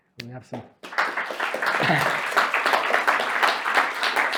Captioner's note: audience applauds